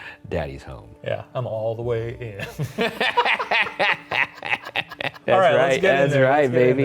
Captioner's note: both laughing